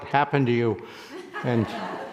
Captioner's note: people laughing